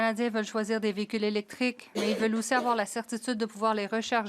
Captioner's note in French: voix de l'interprète